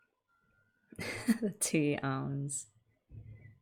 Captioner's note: laughs